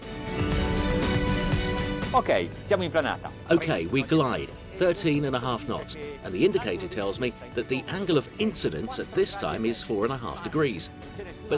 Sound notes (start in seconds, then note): 0.3 dramatic music; 2.4 speaking foreign language